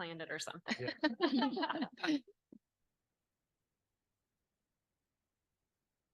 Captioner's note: panelists laughing